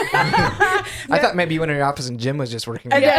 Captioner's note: laughing